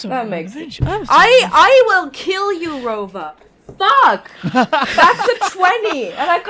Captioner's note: laughs